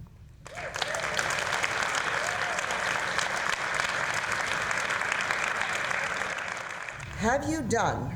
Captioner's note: applause